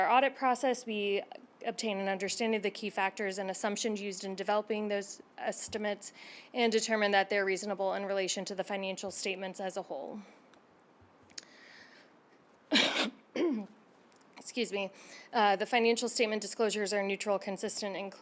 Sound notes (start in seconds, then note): 12.7 coughs